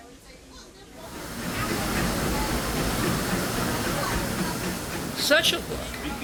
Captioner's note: locomotive chugging